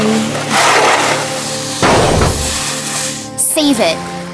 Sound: loud scraping, thumping

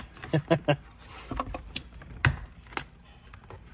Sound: laughs

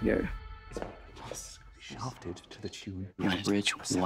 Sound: whispering

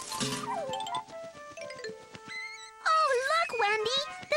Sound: bird Singing

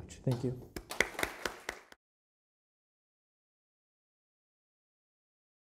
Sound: audience applauding

